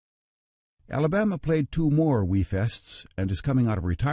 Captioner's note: voiceover